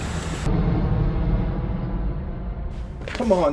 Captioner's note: plane engine whirring